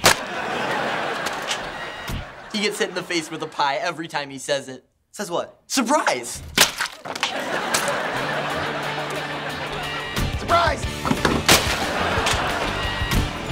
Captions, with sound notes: [laughing] He gets hit in the face with a pie every time he says it. - Says what? - Surprise! [laughing] Surprise! [laughing]